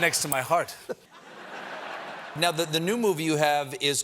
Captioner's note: laughter